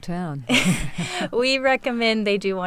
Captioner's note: laughs